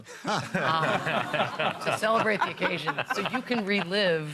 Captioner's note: laughter